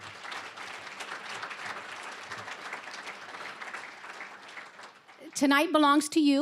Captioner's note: applause